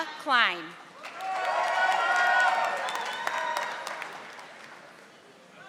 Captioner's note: audience applauding